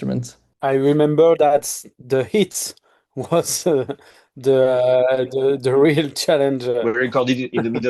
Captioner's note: chuckling